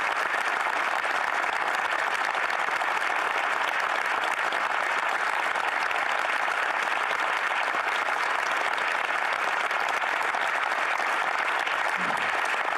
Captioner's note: some Applause